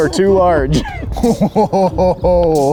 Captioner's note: laughing